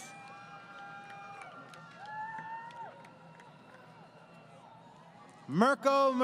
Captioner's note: crowd Cheering